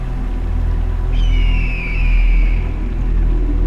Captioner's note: Hawk calling